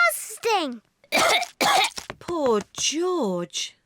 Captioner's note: coughs